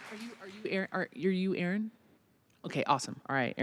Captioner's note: applause